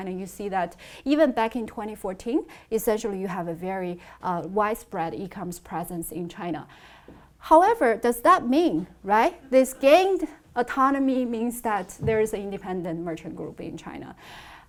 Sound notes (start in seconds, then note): none